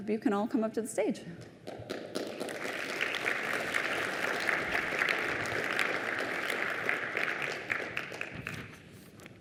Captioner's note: applause